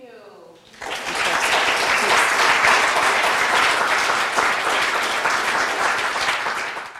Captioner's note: applause